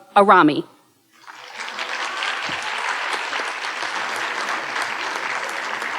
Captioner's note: audience applauding